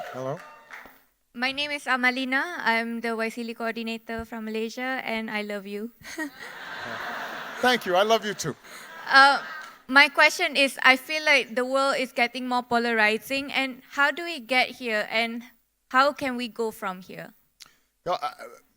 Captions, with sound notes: - Hello. - My name is Amalina. I'm the Wesley coordinator from Malaysia and I love you. (chuckles) - Thank you, I love you too. - My question is, I feel like the world is getting more polarizing. And how do we get here, and how can we go from here?